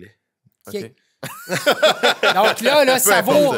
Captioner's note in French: rires